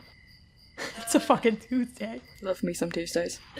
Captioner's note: laughing